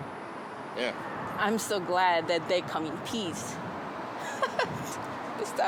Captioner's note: laughs